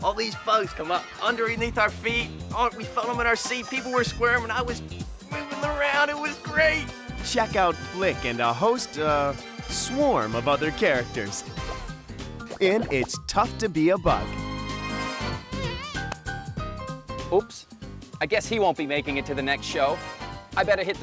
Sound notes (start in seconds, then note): 15.4 bug flying